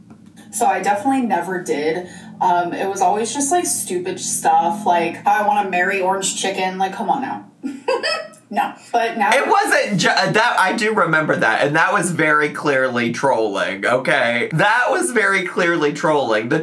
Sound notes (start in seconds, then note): 7.7 laughs